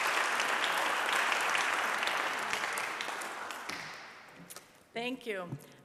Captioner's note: audience applauding